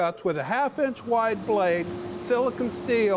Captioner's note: saw whirring